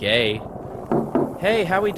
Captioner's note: knocking on window